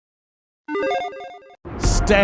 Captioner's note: electronic chiming